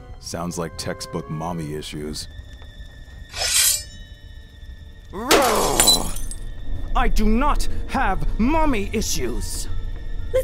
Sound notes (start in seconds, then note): 3.3 blades screech; 5.2 grumbles